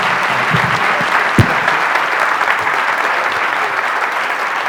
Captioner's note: applause